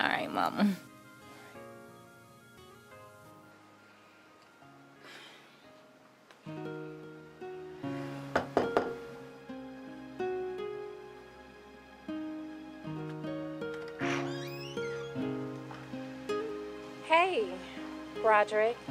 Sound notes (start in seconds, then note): 8.4 knocking; 8.6 somber music